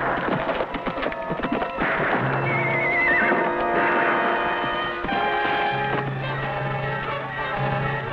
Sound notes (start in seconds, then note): 2.4 Champion whinnies